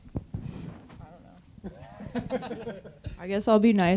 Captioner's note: group laughing